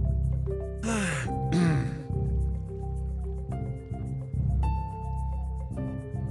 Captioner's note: cough